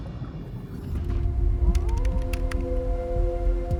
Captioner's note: pensive music; wolf howling